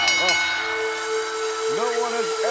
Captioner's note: bell rings